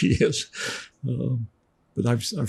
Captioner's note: laughing